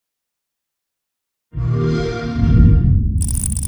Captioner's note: xbox sound